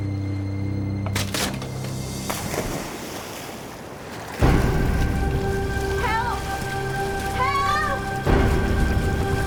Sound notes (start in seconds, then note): 1.1 water splashing